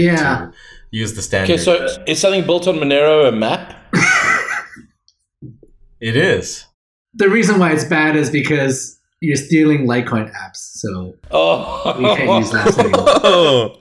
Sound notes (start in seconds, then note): 3.9 laughs; 11.3 chuckles